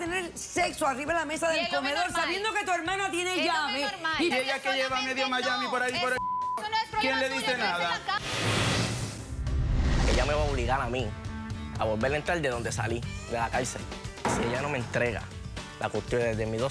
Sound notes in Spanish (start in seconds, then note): 9.2 Bip